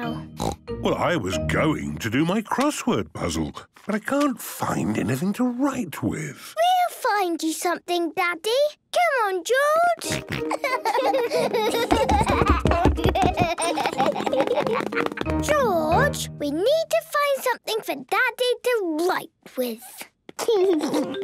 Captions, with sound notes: - Well, I was going to do my crossword puzzle, but I can't find anything to write with. - We'll find you something, Daddy! Come on, George! - Grunt, grunt! - (both laughing) - George, we need to find something for Daddy to write with!